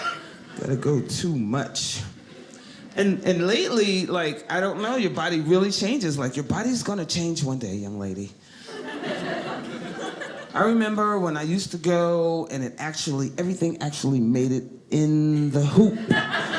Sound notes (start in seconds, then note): 8.6 audience laughing